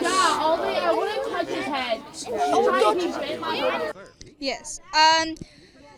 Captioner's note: indistinct chatter